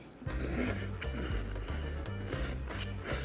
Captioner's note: sluuurp